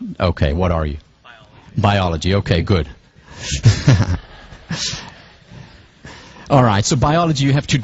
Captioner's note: laugh